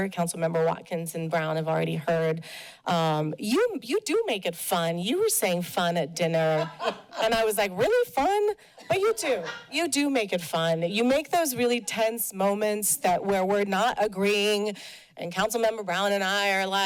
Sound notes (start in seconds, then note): 6.5 laughter